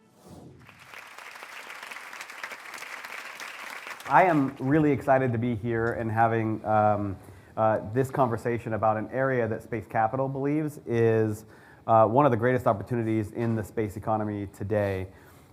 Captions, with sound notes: (audience clapping) - I am really excited to be here and having this conversation about an area that Space Capital believes is one of the greatest opportunities in the space economy today.